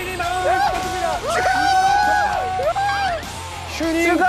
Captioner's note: hurray